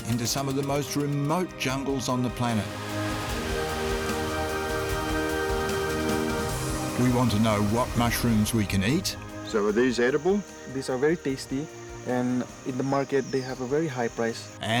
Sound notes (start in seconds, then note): 2.6 river roaring